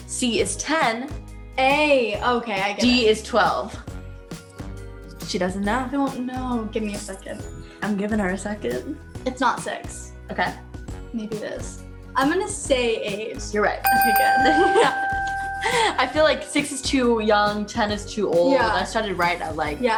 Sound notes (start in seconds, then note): 13.8 dinging